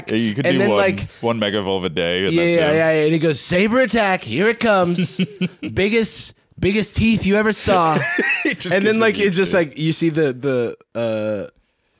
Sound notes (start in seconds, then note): 7.7 laughs